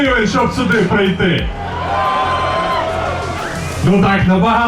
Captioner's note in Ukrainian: крики натовпу